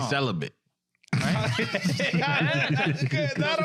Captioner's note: laughing